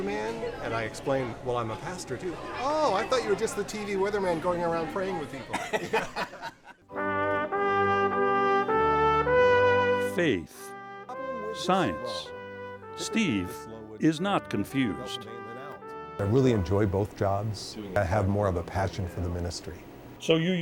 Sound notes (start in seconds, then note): 7.6 laugh